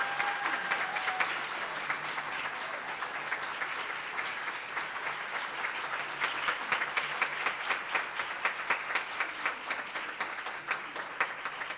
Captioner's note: applause